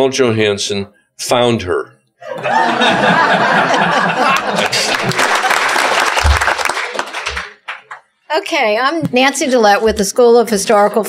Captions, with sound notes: Johanson found her." [LAUGHTER] [APPLAUSE] OK. I'm Nancy Dallett with the School of Historical,